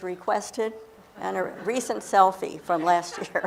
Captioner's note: laughter